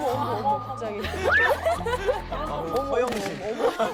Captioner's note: laughs at how candid she is